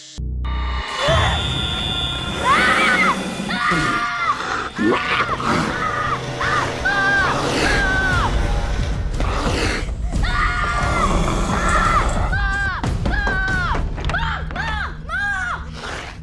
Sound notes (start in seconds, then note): 0.9 screaming; 1.0 gasps; 10.2 low growling